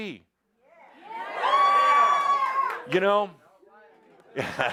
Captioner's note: audience shouts, “Yes!”